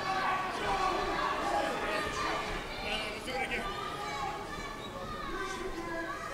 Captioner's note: crowd cheering, chanting and shouting